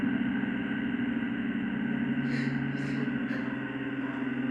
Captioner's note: crying